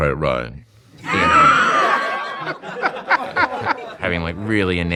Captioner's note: laughing